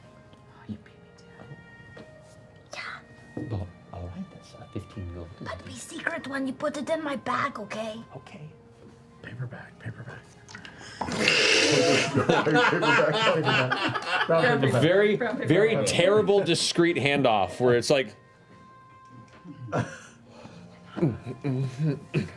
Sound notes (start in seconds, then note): 0.0 whispers; 11.8 laughter